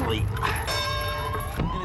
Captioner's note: bell rings